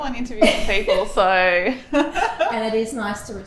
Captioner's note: both laughing